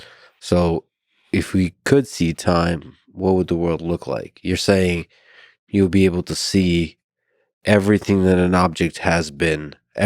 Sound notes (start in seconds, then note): none